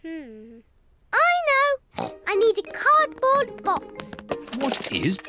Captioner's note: snorts